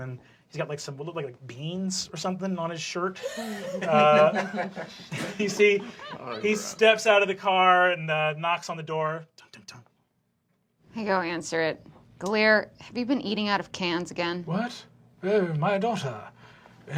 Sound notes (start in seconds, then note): 14.7 low, halting voice